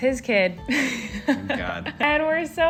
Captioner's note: laughing